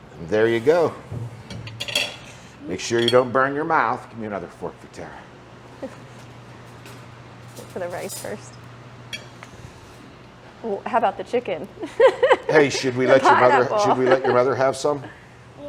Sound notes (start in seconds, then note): 11.8 laughs